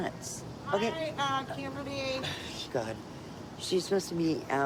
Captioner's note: scoffs